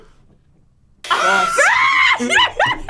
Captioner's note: screams and laughs; buzzer